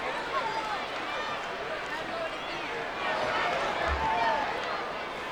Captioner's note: audience chattering